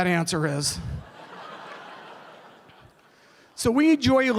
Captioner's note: laughter